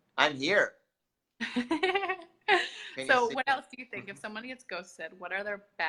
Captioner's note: laughs